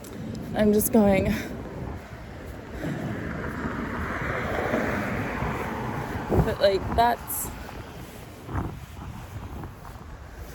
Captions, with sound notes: I'm just going... *sighs* *vehicle passes* *wind gusts* But, like, that's...